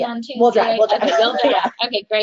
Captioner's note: chuckles